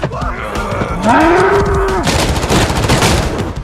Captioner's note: bellowing